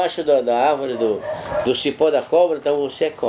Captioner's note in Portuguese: latidos do lado de fora da casa